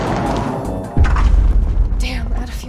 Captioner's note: engine stalls